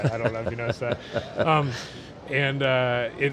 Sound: chuckles

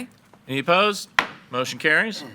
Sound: gavel bangs

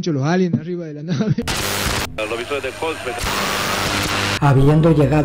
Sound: radio tuning

